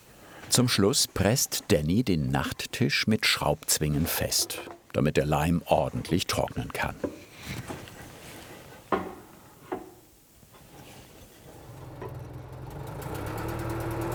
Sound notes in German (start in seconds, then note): none